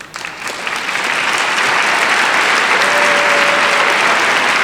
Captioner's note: audience applauds